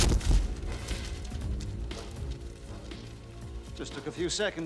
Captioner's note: bang; paper rustling